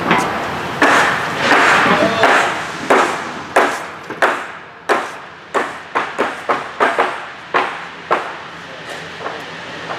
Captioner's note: pounding sounds